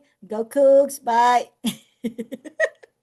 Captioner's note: laughs